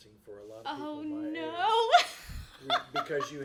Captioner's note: laughs